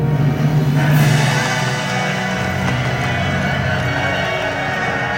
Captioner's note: crowd cheering; majestic music